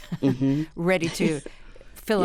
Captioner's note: laughter